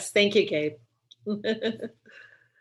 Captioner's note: laughing